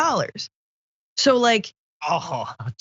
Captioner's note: laugh